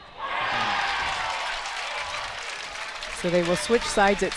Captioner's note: crowd applauds